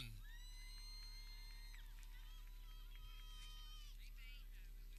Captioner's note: people cheering